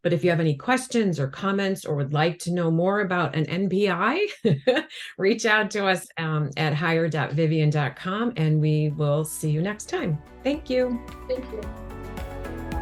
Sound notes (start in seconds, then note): 4.4 chuckles; 12.6 upbeat music